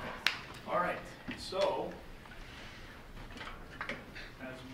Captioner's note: crowd murmuring